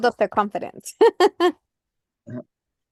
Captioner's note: laughs